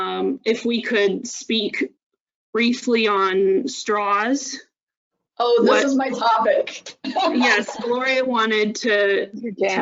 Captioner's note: laughs